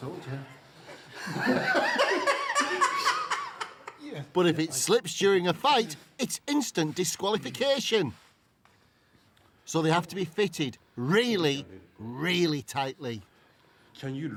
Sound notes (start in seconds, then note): 0.8 laughter